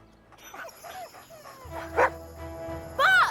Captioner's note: dogs whining; Buck barking